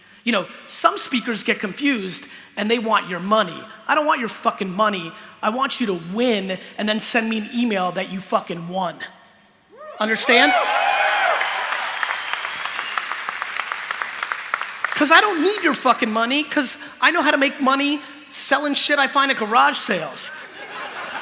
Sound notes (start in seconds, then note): 9.8 cheering; 20.4 laughter